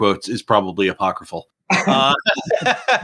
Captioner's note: laughing